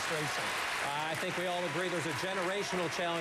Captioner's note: applause